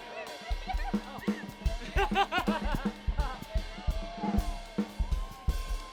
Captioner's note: students cheering and laughing